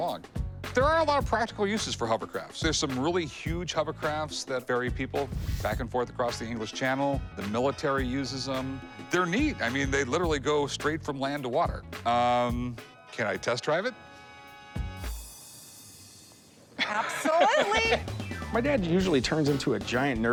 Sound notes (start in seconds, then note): 16.8 laughs